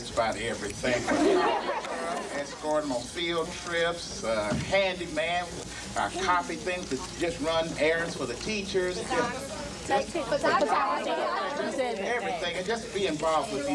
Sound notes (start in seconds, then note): 1.0 laughing; 10.3 kids chime in